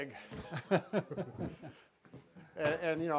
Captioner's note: laughing